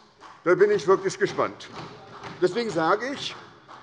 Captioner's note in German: Beifall bei der SPD